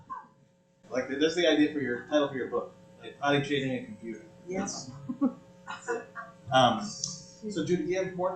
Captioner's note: laughter